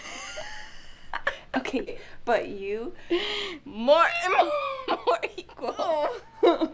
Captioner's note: laughs